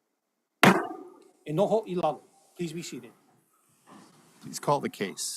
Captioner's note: gavel bangs once